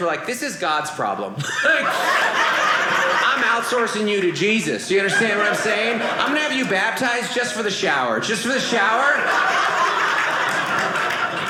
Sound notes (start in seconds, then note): 1.4 audience laughing; 8.2 audience laughing